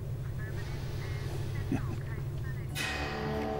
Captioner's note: Calis laughs